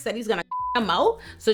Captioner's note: beep